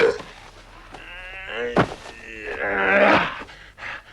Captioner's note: Torente groaning; Torente belches